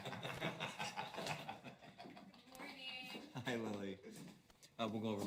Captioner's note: chuckling